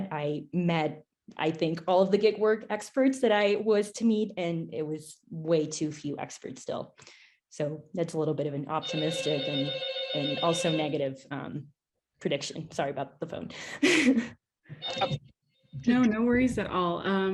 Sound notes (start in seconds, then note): 8.8 phone ringing